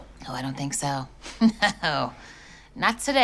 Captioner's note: laughing